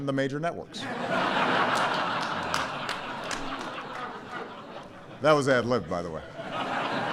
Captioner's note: laughter